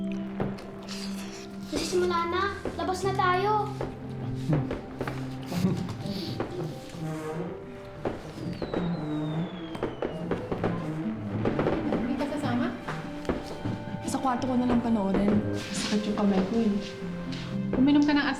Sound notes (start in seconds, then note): 8.8 firecrackers blasting